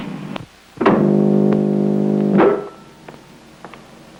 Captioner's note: buzzing